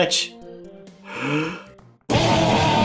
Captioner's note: breaths in